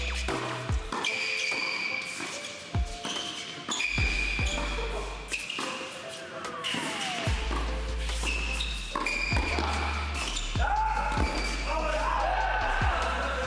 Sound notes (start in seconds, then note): 0.0 shoes squeak; 6.8 upbeat music; 8.9 shoes squeak